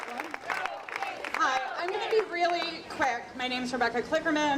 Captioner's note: audience applauding